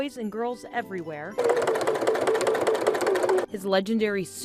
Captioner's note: sewing machine whirs